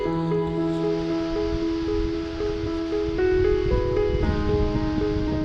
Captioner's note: rain falling